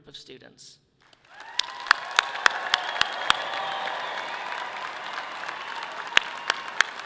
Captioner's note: audience clapping and cheering loudly